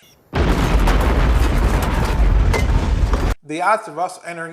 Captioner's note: structure exploding